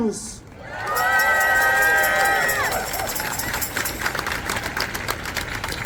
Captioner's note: applause